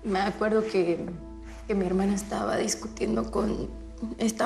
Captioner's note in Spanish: none